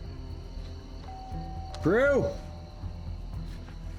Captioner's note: rings doorbell